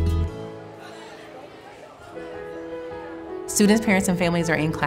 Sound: students chattering

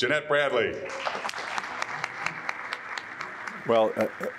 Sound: group applauding

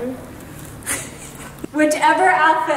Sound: giggling

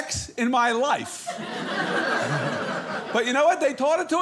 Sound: audience laughing

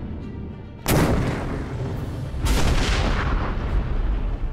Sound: cannon fires

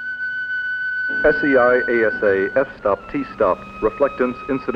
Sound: voiceover

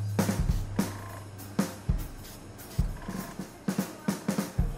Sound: airbrush spraying

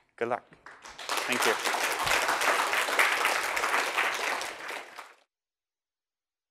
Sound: applause

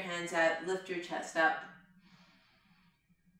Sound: inhales

